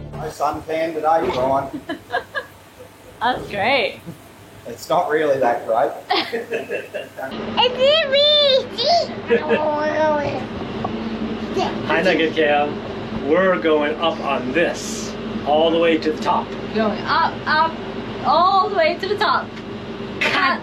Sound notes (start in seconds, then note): 6.0 both laughing; 7.8 babbling